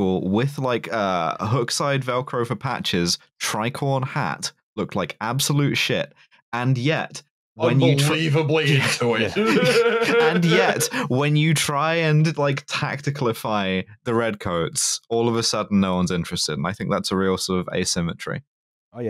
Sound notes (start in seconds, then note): 8.6 laughs